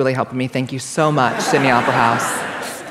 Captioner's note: laughter